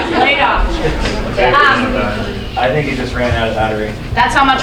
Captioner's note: audience laughing